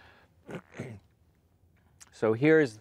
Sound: clears throat

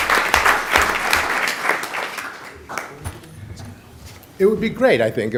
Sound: applause

